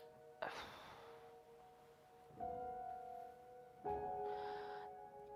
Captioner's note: sighs